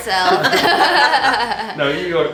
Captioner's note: laughing